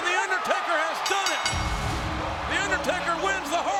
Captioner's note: crowd cheering; bell ringing